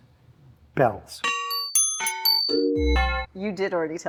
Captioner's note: weird bell sounds